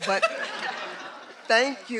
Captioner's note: everyone laughing